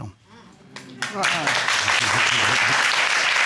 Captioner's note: applauding